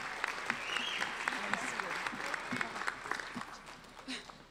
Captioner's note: applauding